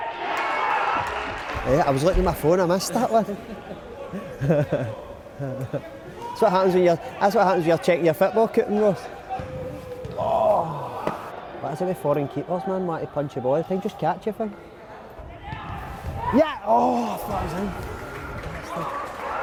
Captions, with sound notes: (crowd cheers) I was looking at my phone, I missed that one (laughs). That's what happens when you’re checking your football coupon! What is it with foreign keepers man, wanting to punch the ball all the time, just catch the thing. Ya- oh, I thought that was in. Bastard.